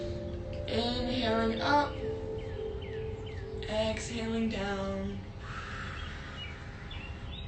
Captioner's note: exhales